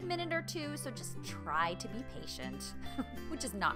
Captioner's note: chuckles